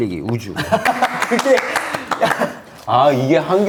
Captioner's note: applause